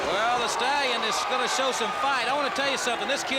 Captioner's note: crowd cheering